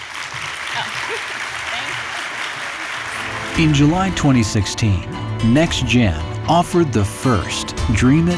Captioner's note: applause